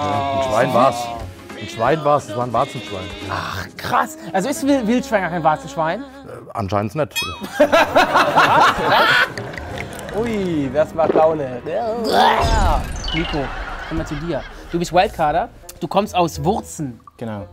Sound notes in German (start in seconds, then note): 7.3 Amüsiertes Lachen; 9.0 Schluckgeräusche